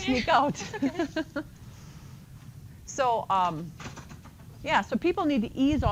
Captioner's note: laughs